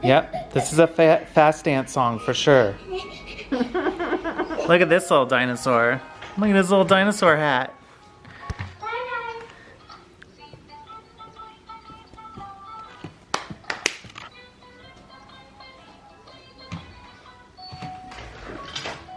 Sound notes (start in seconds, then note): 13.2 hand claps